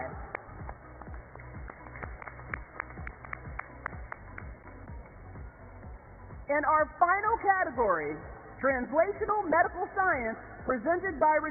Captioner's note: applause